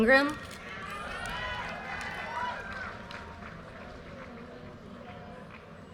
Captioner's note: audience cheers and applause